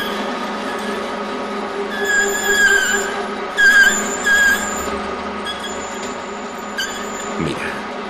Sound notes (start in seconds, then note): 3.7 sound of metal grinding